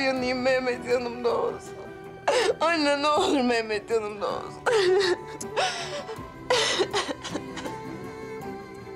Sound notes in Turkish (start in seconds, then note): 4.5 Ağlıyor